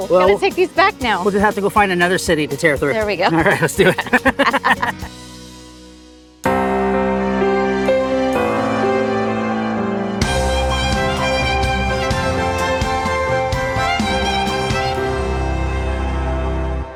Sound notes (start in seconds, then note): 3.4 both laughing; 6.4 dramatic majestic music